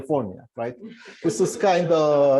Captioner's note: laughter